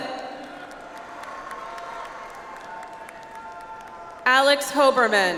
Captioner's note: audience applauds